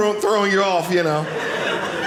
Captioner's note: audience laughing